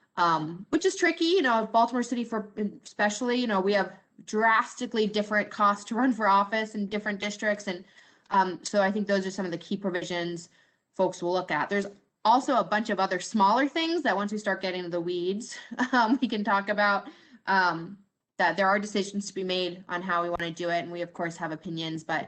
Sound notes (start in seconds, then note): 15.6 laughter